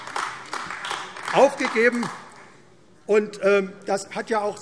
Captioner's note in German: Beifall AfD